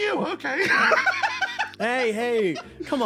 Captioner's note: laugh